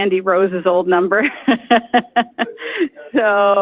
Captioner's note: laughs